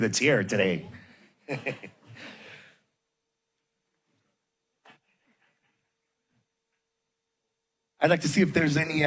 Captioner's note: laughter